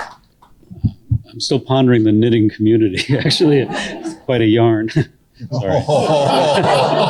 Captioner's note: some laughter